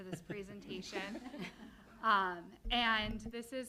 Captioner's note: laughter